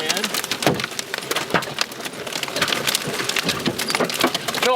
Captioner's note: hail pattering